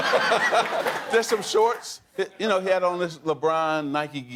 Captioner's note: laughter